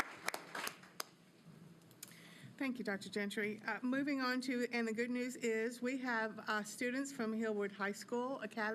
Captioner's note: applause